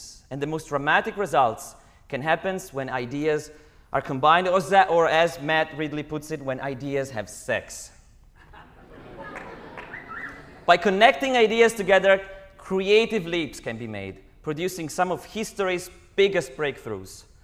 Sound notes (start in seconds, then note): 8.4 laughter, wolf-whistle